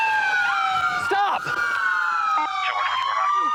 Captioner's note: yelling